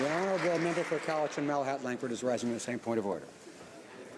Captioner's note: some Applause